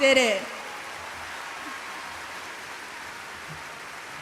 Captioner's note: applause